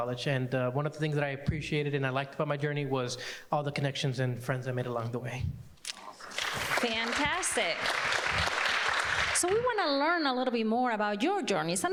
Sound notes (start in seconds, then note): 8.8 people clapping